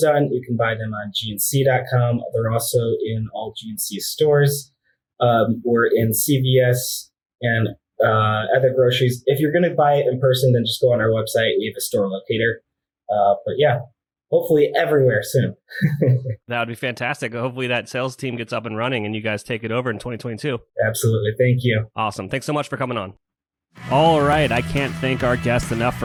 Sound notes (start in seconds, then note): 15.5 laughs